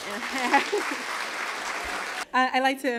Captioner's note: applause